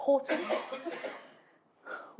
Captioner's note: cough in audience